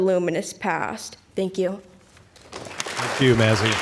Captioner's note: applause